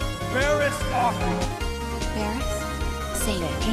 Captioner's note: none